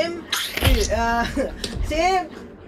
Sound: Skinny squelches; calling

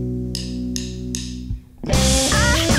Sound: drum sticks clinking

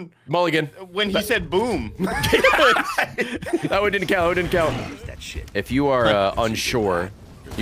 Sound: laughs

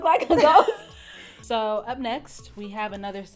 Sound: laughs

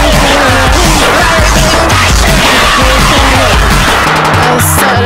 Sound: distortion disortion

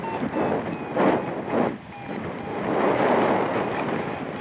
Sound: alarm accelerates; wind whooshing; alarm slows; alarm accelerates; wire reeling

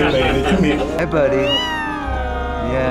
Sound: meow

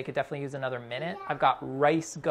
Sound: child talking

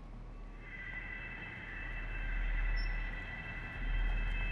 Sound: high pitched audio feedback

